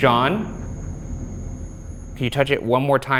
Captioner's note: REM pod continues screeching